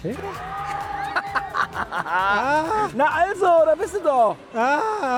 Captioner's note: laughs